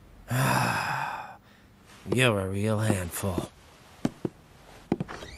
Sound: sigh

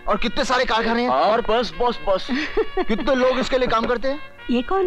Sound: laughs

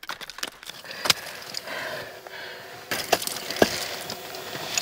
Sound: heavy breathing

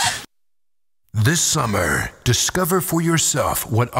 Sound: voiceover

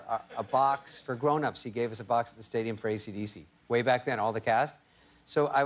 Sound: laughter

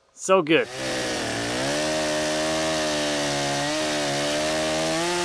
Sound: chainsaw engine roaring

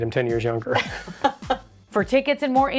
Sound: both chuckle

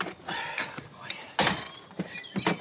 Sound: exhales; kennel door clangs shut

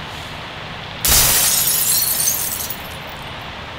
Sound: crash sound

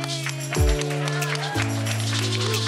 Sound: crowd claps; gentle keyboard music

